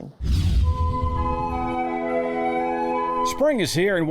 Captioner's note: air whooshing; woodwind music